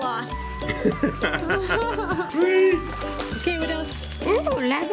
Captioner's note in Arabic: يضحك